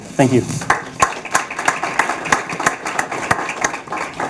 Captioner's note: clapping